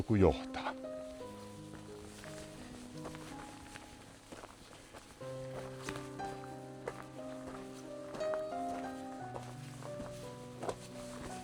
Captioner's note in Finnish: askelten ääniä